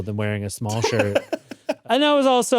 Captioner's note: laughs